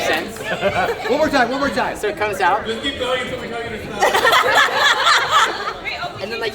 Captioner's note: laughter and cheers